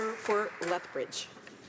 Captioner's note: some Applause